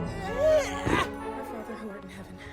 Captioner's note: fast instrumental music; groaning